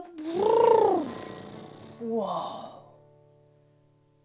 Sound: 1. blows raspberries, guitar slides down 2. deflates "balloon"